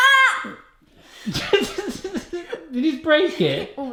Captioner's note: laughs